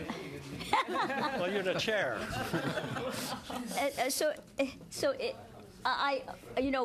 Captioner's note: laughter